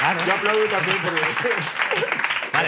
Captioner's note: both laugh